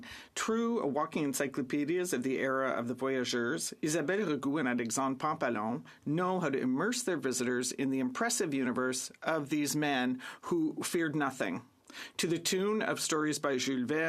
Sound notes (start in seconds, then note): 3.5 speaking French